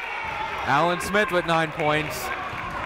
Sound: cheering

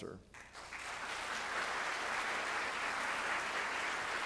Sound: audience applauding

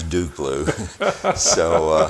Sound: chuckling

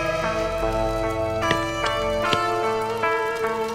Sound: thuds

